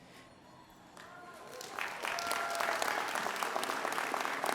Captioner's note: audience applauding